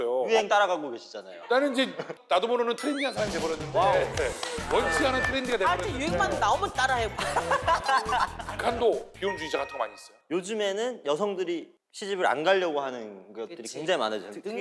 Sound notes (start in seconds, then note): 1.5 stammers